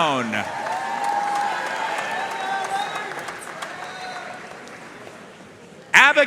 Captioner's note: audience cheering and applauding